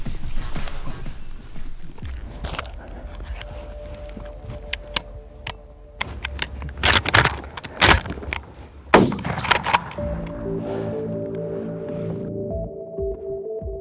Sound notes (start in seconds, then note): 6.6 gun cocking; 8.9 gunshot blast